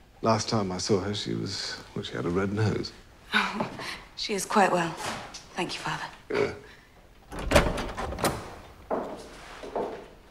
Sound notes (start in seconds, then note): 7.2 door opening